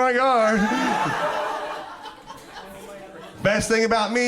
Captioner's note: crowd laughs